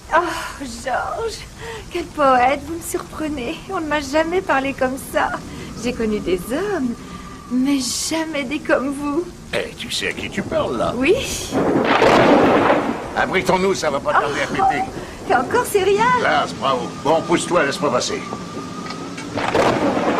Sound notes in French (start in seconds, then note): 11.5 Tonnerre